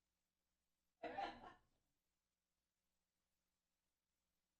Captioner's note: laughter